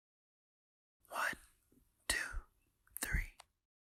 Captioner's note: whispers